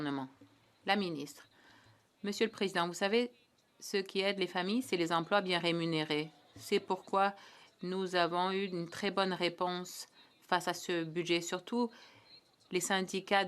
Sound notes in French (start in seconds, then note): 7.2 voix de l'interprète